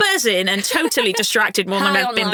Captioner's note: chuckling